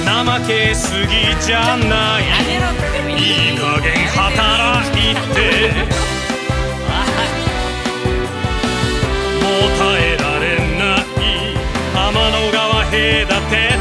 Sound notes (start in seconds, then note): 6.1 laughter~